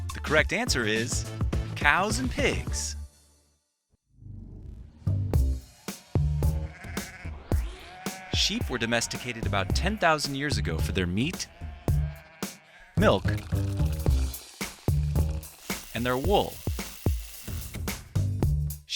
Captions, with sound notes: The correct answer is cows and pigs. (gentle techno music) (sheep bleating) Sheep were domesticated about 10,000 years ago for their meat, milk, (milk pouring) and their wool. (trimmer whirring)